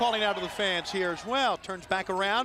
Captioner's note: crowd cheering